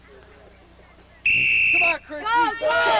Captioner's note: whistle blows